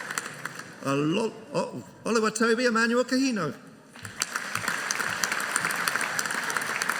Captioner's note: audience applauding